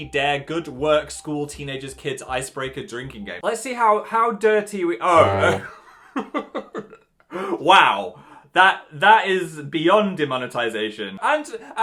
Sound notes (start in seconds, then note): 4.8 buzzer; 5.1 laughs